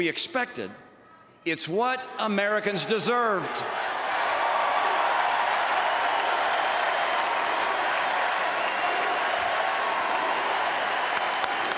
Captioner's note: applause